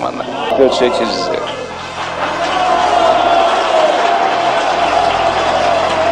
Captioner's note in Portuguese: aplausos e música